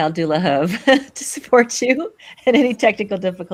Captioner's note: laughs